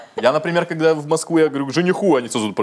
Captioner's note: laughs